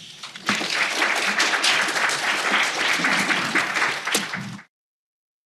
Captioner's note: applause